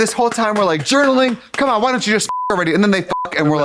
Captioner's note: beep